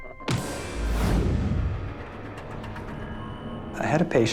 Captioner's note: dark dramatic music; body thuds